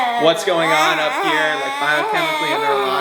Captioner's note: murmuring